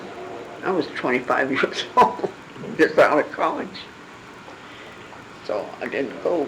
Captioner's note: laughing